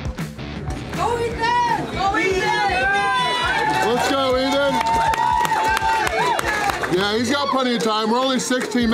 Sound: crowd

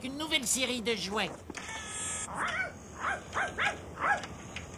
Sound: barking

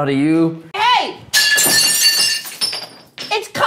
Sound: plate shatters

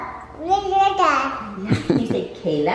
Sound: babbles

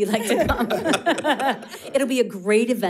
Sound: all laughing

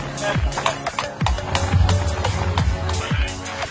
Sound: clapping

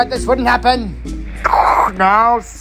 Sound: radio hisses

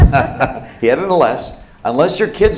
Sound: laughs

